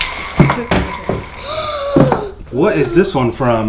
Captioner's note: gasps